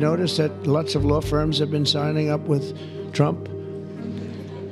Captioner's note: audience chuckling